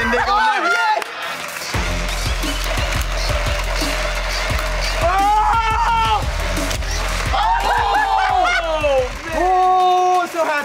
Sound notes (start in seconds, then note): 0.2 screaming and laughing; 1.8 electronic music; 5.3 horrified screaming; 6.8 yelling and laughing